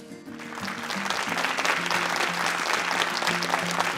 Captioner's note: audience clapping